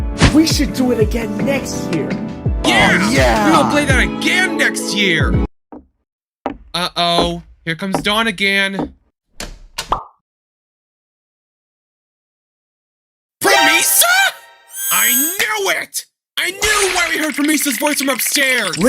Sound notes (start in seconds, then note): 14.9 snaps his Metallic fingers